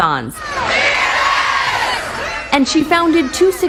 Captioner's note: crowd cheering